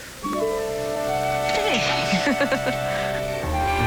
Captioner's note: chuckles